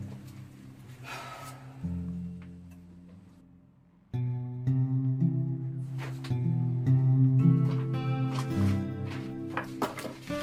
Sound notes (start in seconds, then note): 1.0 Brooke sighing; 5.6 gentle music continues